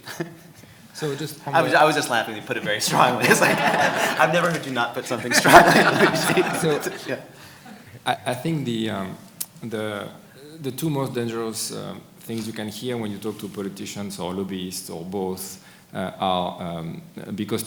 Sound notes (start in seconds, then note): 1.0 audience laughing; 1.4 chuckles